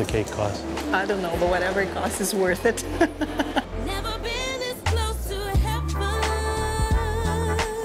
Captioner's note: laughs